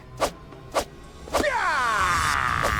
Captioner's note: ninja sounds